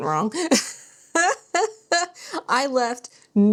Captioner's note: laughs